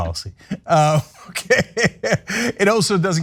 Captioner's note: laugh